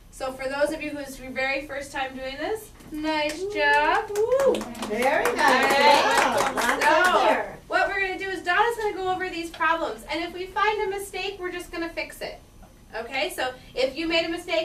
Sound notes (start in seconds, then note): 3.7 class applauds; 5.2 voiceover